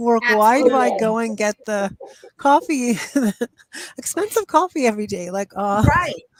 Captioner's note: chuckles